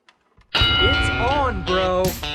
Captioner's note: bell rings